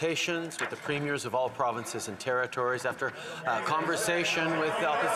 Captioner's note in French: voix de l'interprète